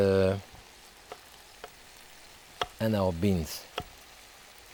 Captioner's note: knife slicing